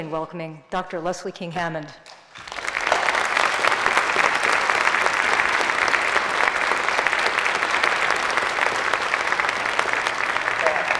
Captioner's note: applause